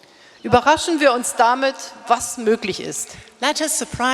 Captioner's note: speaking in German